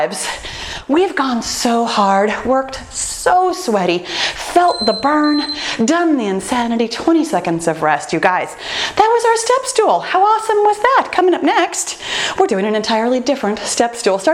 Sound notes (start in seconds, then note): 4.6 timer beeping